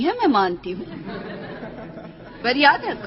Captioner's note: dancers chuckling